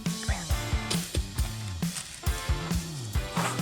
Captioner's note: whispers; tapping sounds, leaves crunch